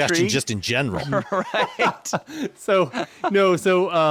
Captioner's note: laughing; chuckling